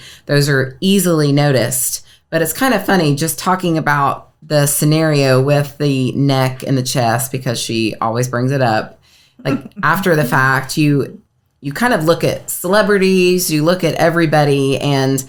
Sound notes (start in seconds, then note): 9.0 chuckles